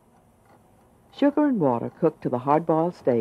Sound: voiceover

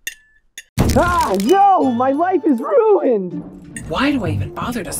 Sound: crashing noises

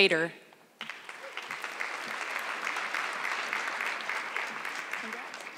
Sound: audience clapping

